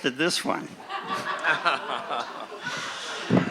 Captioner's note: laughing